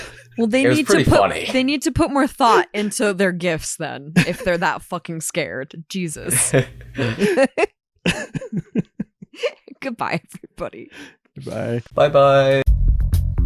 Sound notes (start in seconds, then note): 6.1 laughs; 6.2 chuckle